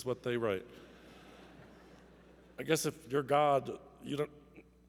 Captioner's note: laughter